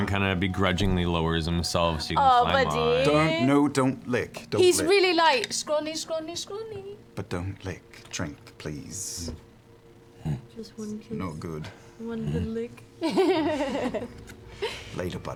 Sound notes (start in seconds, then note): 12.2 grunts; 13.0 laughs